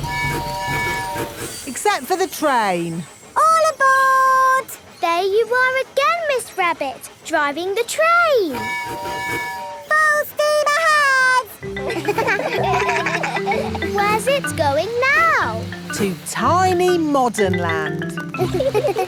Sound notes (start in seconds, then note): 0.0 train tooting; 8.5 tooting; 11.6 kids laugh; 18.4 laughing